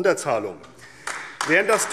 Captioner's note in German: Beifall AfD